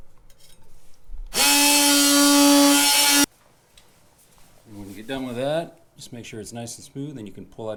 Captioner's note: oscillating tool noise